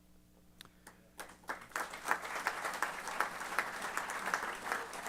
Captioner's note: applause